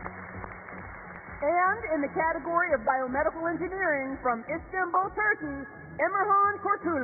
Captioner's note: applause